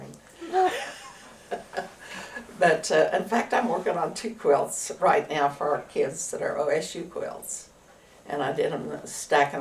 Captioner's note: laughter